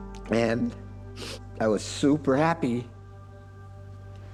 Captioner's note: sniffling